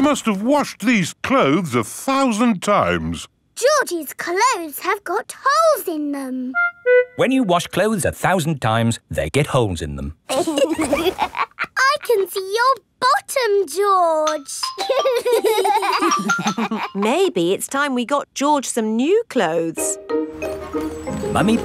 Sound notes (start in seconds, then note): 10.3 laughs; 14.8 giggling